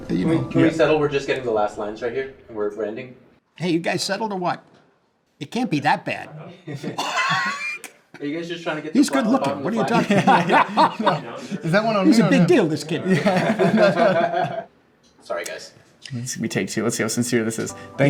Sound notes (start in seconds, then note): 13.1 everyone laughing